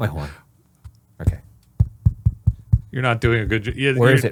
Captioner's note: mic thudding